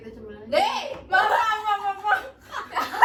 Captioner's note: laughing; laughs